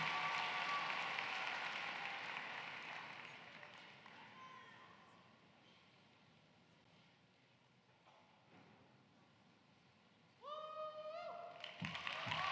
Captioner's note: cheering and applause